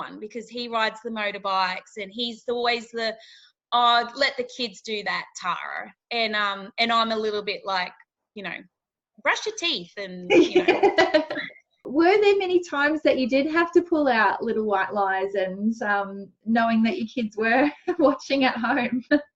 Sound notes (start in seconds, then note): 10.3 laughing